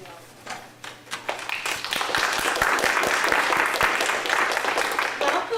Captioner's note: applause